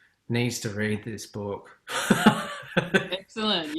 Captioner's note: laughs